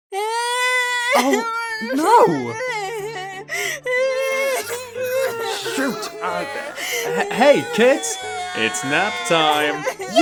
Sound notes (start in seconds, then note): 0.1 Crayon #2 starts crying; 3.8 All of the other Crayons start crying in unison